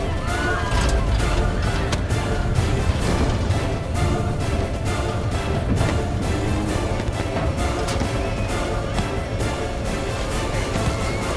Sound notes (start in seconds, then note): 1.8 head thuds